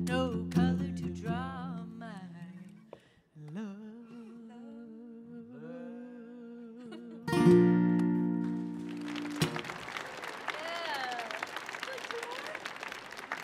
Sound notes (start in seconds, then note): 6.6 laughs; 8.3 audience applauding